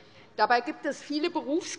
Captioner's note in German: none